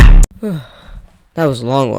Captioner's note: sigh